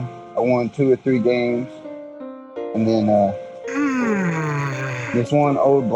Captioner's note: yawns